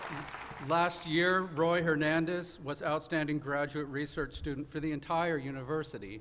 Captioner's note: applause